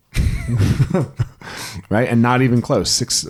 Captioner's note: both chuckle